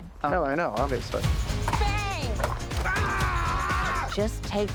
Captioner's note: exclaims